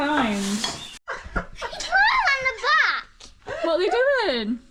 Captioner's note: laughter